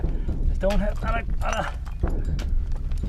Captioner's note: grunting